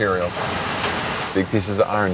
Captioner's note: rumbling